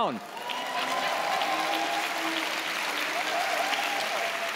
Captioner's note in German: Jubel, Applaus